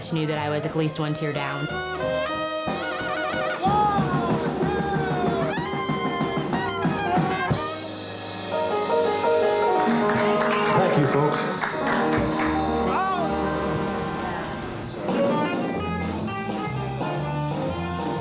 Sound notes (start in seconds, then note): 9.7 clapping; 15.2 upbeat jazz music